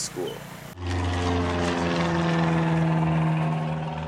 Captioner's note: engine hums